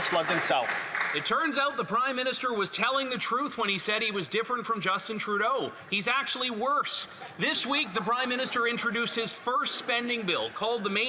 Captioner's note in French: voix de l'interprète